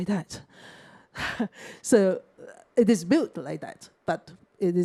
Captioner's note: sighs